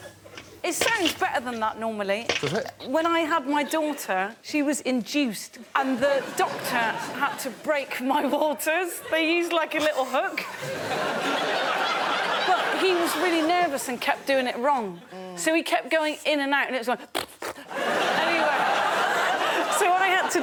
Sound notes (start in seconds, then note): 17.1 makes fart noises